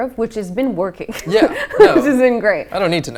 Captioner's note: laughing